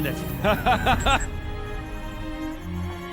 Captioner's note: laughs